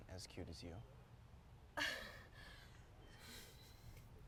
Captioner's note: chuckles